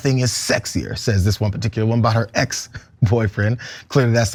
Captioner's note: laugh